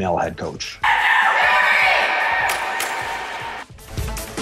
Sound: team cheers

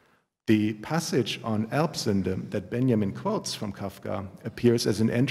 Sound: german

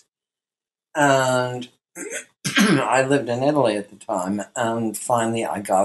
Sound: coughs

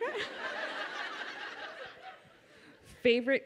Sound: audience laughs

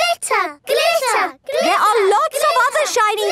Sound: chanting

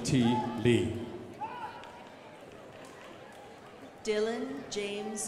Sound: crowd applauding

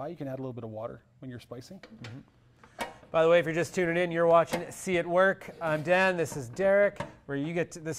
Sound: none

